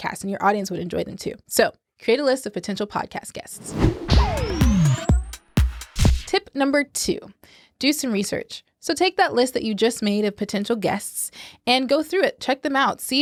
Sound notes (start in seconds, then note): 3.5 whooshing; 3.6 upbeat music